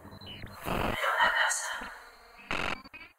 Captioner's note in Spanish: susurrando